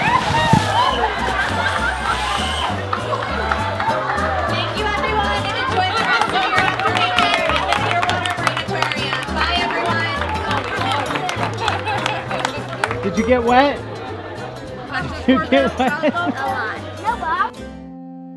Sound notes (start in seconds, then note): 0.7 laughing; 18.1 upbeat guitar music